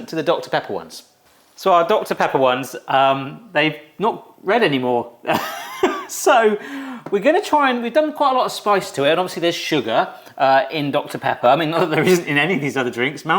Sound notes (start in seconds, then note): 5.3 laughs